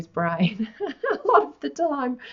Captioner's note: giggles